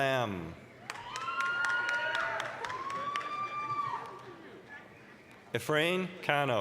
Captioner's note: applause, cheering